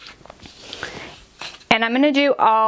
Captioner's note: paper crumpling